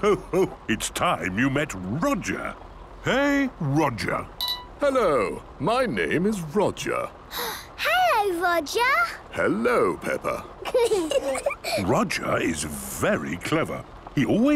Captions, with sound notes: - Ho, ho! It's time you met Roger. Hey, Roger! - Hello. My name is Roger. - (gasps) Hello, Roger! - Hello, Peppa. - (children giggling) - Roger is very clever.